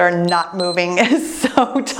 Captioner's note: timer beeps